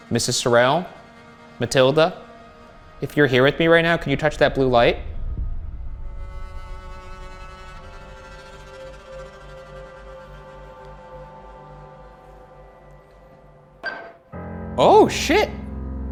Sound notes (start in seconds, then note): 6.3 spooky music; 13.8 device beeps